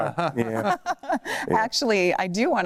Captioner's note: laughter